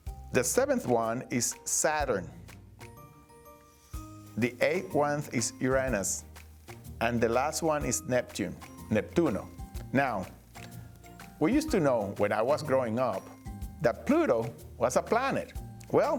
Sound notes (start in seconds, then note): 8.8 speaking Spanish